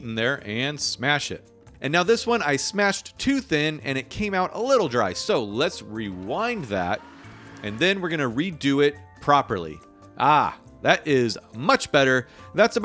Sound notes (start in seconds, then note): 5.9 tape scratching